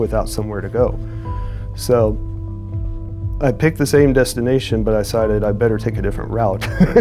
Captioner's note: chuckles